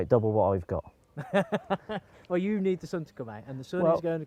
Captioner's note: laughs